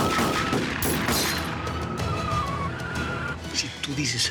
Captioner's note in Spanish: chirrido de neumáticos